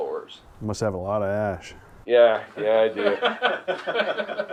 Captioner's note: laughter